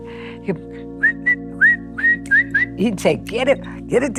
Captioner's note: whistles